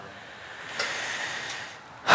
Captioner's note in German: Er seufzt